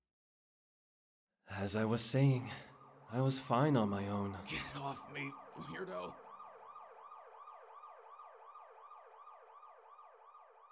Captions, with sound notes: As I was saying... [ambulance sirens] I was fine on my own. [ambulance sirens] - Get off me, weirdo! [ambulance sirens] [ambulance sirens]